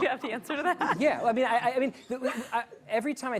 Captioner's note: laughter